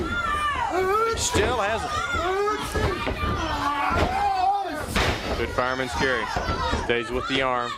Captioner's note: crowd chatter